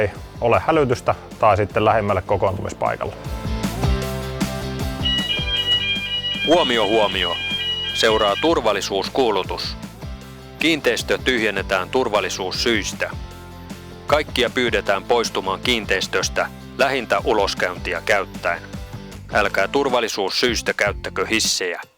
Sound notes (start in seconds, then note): 8.3 emergency announcement in Finnish